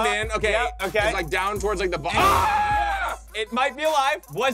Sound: screams

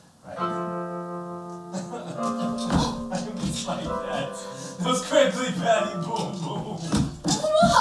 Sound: Lightkeeper starts crying

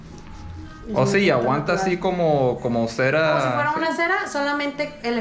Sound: speaking in Spanish

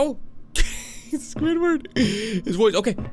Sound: chuckles

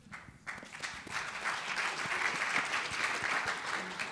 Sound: audience applauding

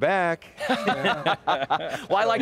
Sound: people laughing

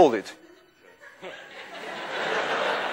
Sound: class laughs

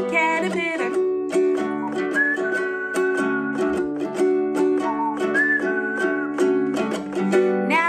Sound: whistling

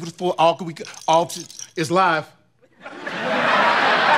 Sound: stammering; audience laughing

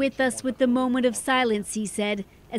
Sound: speaking Alternate Language

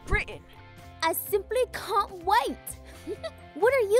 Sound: British accent

